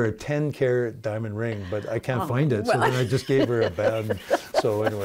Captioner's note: laughing